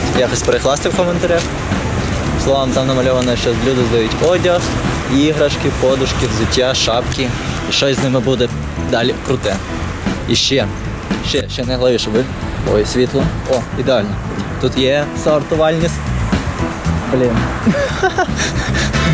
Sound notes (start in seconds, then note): 17.1 laughs